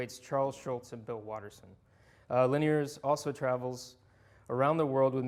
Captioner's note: none